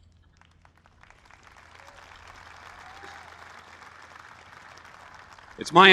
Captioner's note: applause